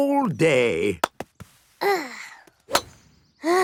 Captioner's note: sighs